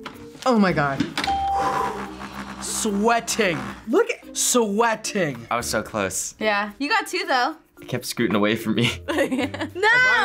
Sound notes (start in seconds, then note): 1.3 bell rings; 1.3 sighs; 9.4 laughs